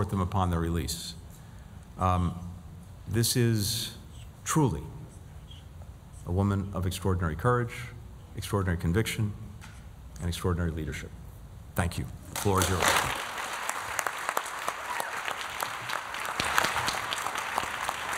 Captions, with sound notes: them upon their release. This is truly a woman of extraordinary courage, extraordinary conviction and extraordinary leadership. Thank you. Floor is yours. [APPLAUSE]